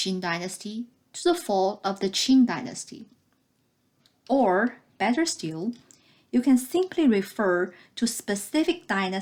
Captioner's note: click